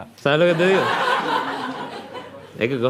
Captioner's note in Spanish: Risas